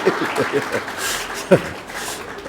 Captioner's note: applause; laughter